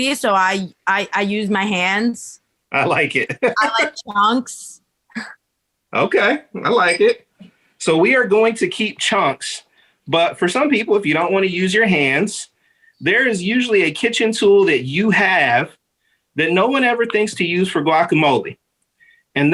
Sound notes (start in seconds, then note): 2.8 chuckling